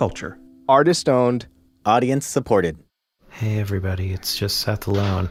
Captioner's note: whispering